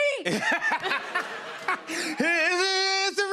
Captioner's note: laughter